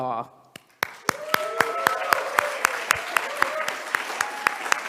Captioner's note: audience applauding